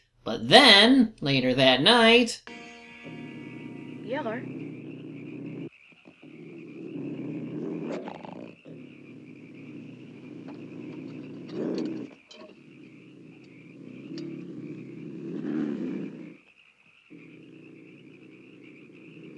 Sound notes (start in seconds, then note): 4.5 Old Yeller growling menacingly